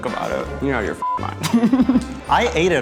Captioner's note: beep